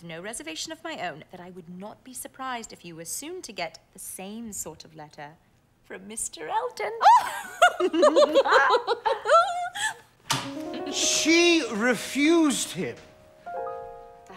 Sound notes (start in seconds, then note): 7.1 both laugh delightedly; 10.4 piano music